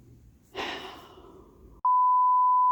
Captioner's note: sigh